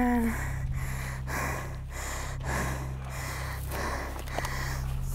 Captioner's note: breathing heavily